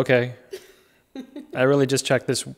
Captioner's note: laughing